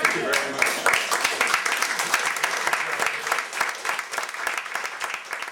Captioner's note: applause